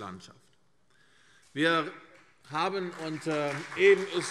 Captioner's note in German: Beifall CDU und BÜNDNIS 90/DIE GRÜNEN